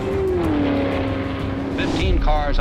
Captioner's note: engines roaring